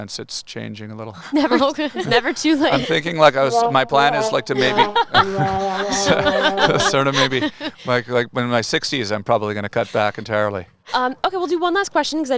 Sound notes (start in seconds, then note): 1.4 laughing; 3.5 cartoon disappointment sounding; 5.2 laughing